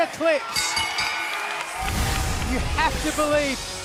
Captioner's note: bell ringing